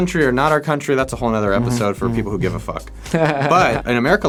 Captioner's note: laughing